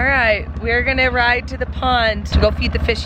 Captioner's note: engine running